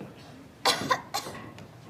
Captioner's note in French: Tousse